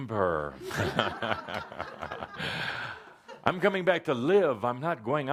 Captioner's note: laughter